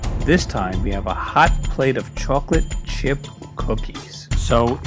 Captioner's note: none